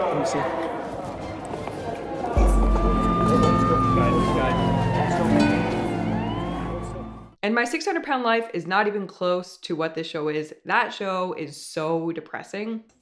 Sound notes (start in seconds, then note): 2.3 ambulance sirens wailing